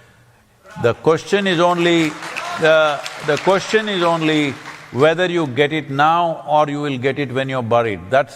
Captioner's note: applause